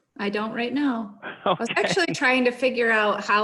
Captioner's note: chuckles